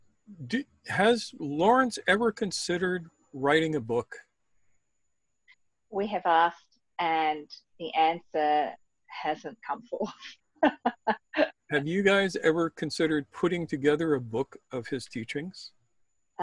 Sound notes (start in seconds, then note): 11.7 laughs